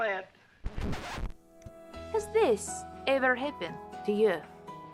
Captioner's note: record scratch